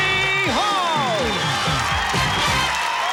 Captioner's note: cheering